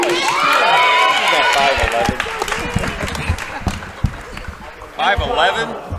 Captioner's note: cheering